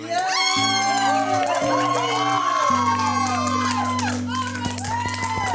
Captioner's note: cheering and applauding